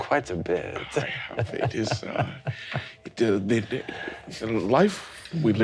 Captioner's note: laughing